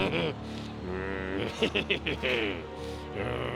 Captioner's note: laughing